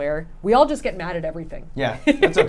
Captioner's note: laughs